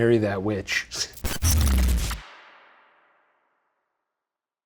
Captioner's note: beeping